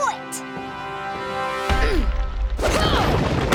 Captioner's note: grunting